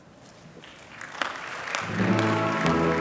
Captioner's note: applause